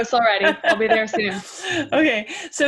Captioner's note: laugh